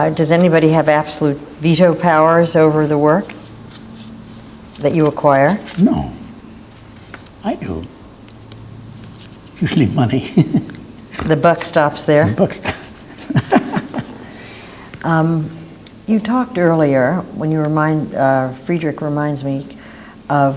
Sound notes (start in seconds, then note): 9.6 laughs